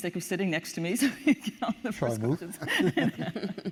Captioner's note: laughs